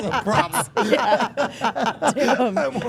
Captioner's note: everyone laughing